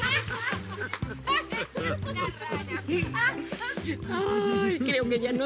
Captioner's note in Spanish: Gritos; Risas